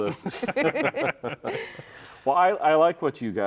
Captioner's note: all laughing